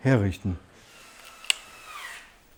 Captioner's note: drilling noises